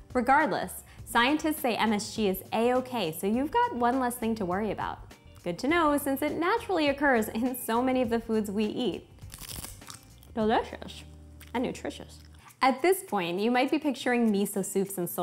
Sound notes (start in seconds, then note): 9.1 seaweed crunches in teeth